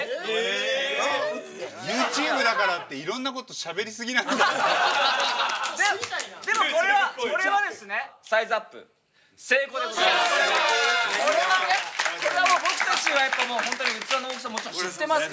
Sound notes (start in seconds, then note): 4.2 laughter